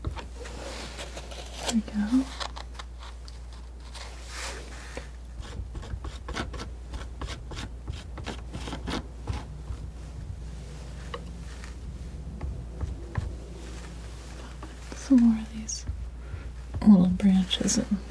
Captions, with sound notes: Okay. Here we go. [scratching] Some more of these little branches.